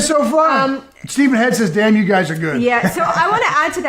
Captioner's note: laughs